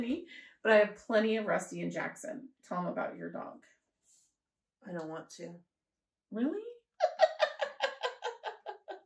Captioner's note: laughter